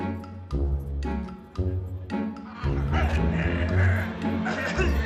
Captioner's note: choking sounds